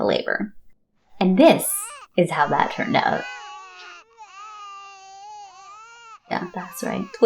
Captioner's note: two babies crying